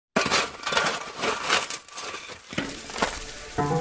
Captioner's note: sound of shovel hitting soil